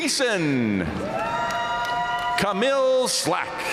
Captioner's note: audience cheering and applauding